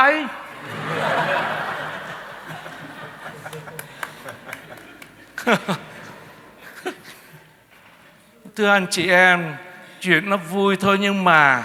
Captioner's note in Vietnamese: Tiếng cười